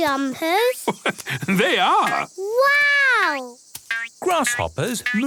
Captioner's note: laugh